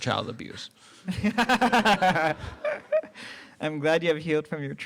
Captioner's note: laughter